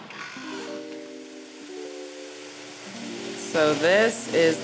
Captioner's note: chill music; water rushing